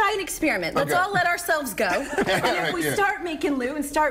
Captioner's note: laughter